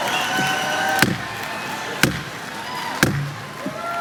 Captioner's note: applause; banging